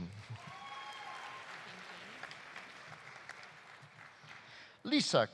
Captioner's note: audience applauding; audience cheering